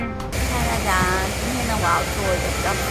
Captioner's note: the waterfall is quite loud